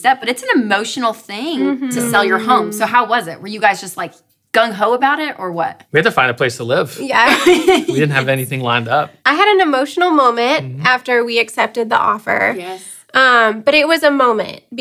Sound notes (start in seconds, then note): 7.2 laughing